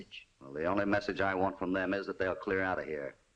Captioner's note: none